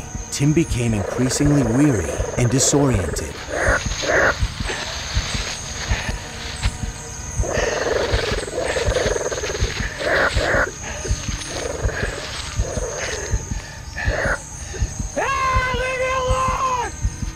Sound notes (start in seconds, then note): 3.4 animal snarling